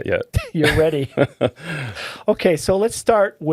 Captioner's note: laughing